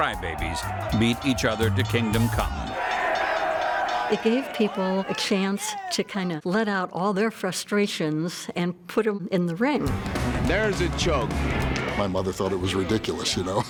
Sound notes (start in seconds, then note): 1.0 bell ringing; 2.2 audience cheering